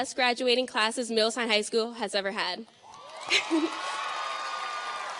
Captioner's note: audience cheers and applauds; laughing